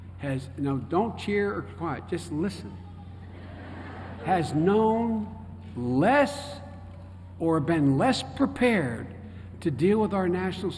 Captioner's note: laughter